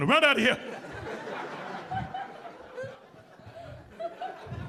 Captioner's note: audience laughing